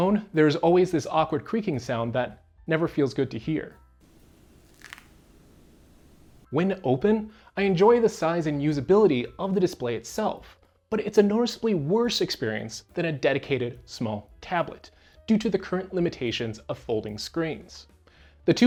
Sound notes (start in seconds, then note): 6.4 sound of screen opening